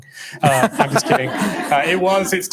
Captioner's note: laughing